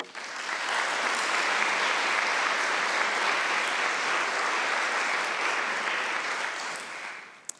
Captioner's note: applause